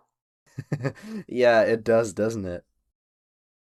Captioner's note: chuckles